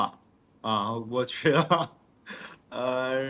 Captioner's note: laughs